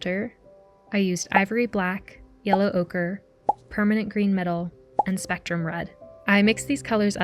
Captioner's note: pop sounds